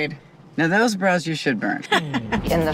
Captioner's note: laughs